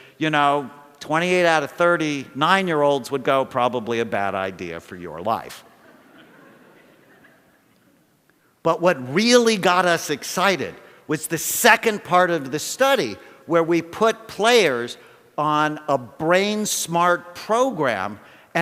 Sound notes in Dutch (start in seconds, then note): 5.6 Gelach